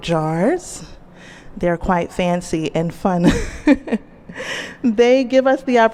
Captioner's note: laughs